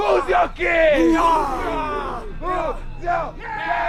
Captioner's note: all cheering